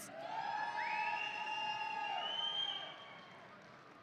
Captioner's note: audience cheering